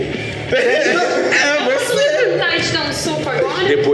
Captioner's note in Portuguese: Risadas